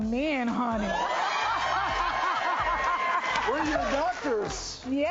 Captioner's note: cheers